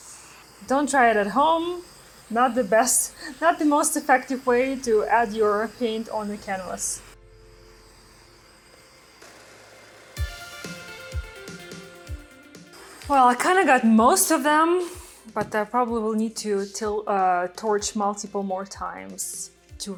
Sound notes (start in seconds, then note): 7.7 torch whirs; 10.3 upbeat music